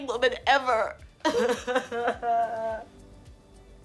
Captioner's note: crying